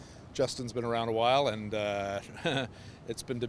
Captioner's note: sarcastic laughter